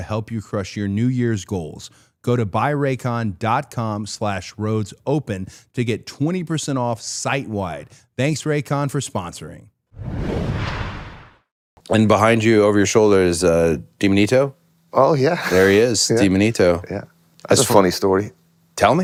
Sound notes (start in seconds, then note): 9.9 logo whooshing; 15.5 laughs